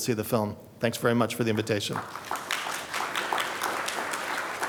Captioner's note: applause